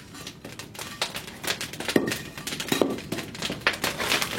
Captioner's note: crackling, soft rumble